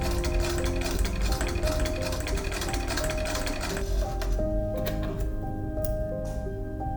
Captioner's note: faint stitching noises